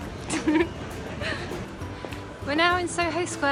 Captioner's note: giggle